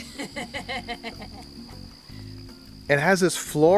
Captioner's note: laughter